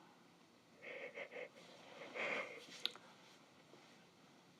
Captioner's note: crying